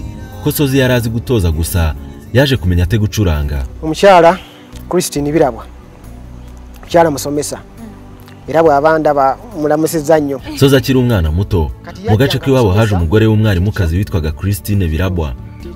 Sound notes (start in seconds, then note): 3.8 speaking Luganda